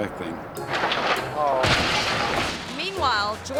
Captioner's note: yacht crashes